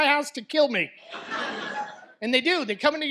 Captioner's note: audience laughs